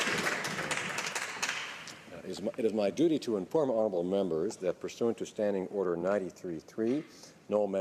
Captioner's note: applause